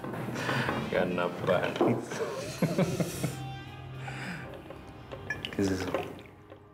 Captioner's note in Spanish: Risas; Risas